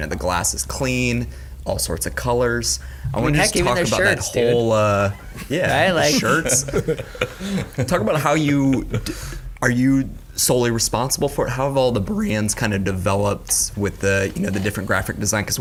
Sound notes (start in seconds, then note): 7.2 all chuckle